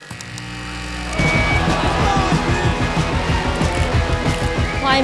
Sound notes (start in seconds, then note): 0.1 amplifier buzzes; 1.1 lively music